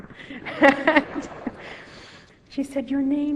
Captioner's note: laughter